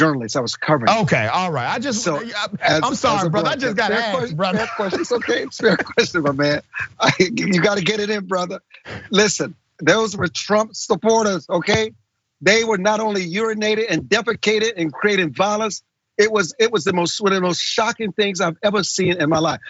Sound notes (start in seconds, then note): 6.7 laugh